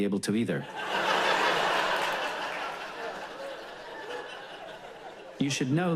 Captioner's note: audience laughs